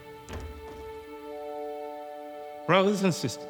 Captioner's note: sentimental music; door clicking shut